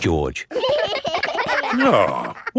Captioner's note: giggling